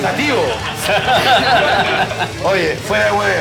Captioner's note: laughs